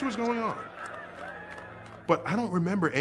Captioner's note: people cheering